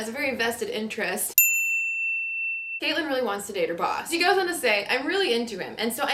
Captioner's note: bell chimes